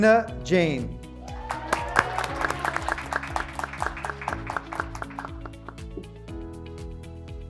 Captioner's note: graduates cheering; graduates clapping